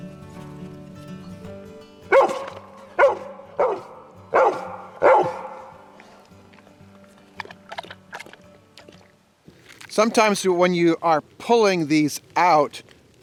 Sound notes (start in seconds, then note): 2.0 dog barks; 6.9 water splashing